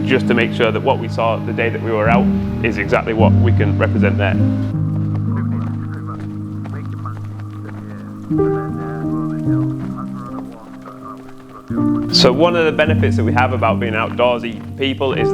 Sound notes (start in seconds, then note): 6.0 chatter